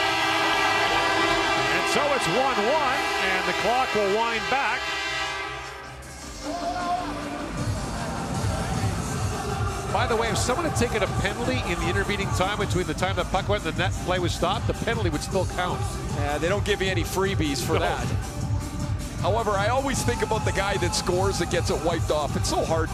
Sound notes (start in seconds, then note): 5.6 horn